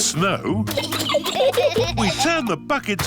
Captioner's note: giggling